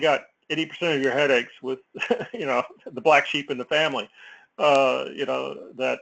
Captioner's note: laugh